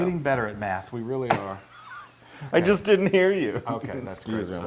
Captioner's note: laugh